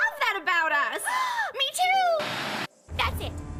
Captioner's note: gasp